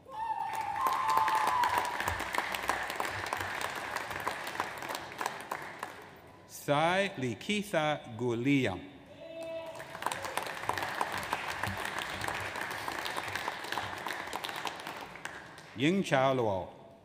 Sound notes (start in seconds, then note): 0.3 audience applauds; 9.7 audience applauds